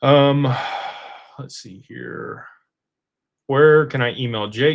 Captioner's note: sighs